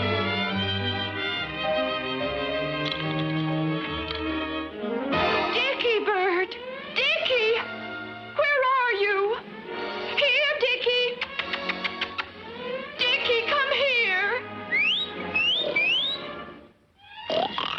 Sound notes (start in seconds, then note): 2.8 lock clicks; 11.2 lips smacking; 14.6 whistling sharply